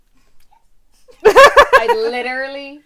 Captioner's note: laughter